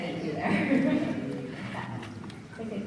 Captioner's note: laughs